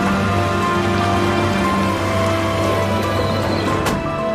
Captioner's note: the sound of an ambulance